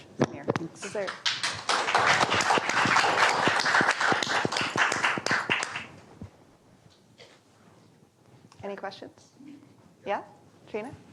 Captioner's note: applause